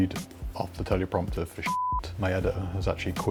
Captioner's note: beep